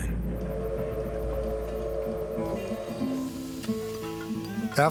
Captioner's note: train whistle blowing